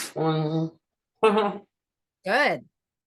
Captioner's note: laughs